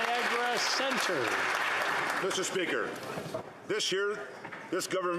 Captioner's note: applause